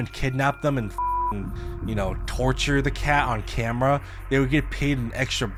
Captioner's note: beep